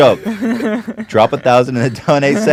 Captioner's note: laughs